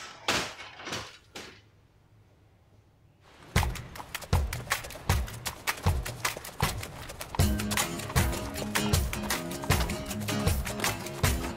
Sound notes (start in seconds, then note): 3.4 hooves clomping; 3.6 exciting music